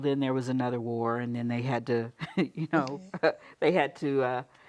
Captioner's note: laughs